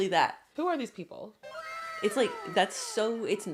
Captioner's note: anime “wauw :0” sound effect